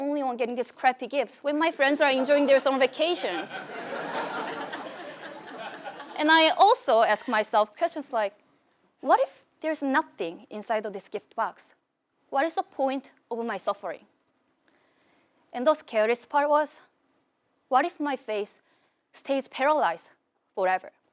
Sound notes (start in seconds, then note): 3.0 laugh